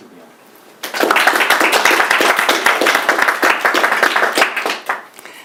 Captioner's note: audience applauding